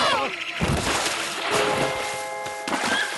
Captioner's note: splash